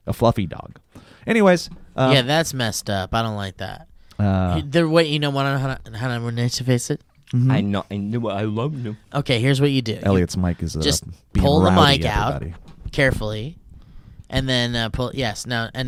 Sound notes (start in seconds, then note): 4.8 speaking gibberish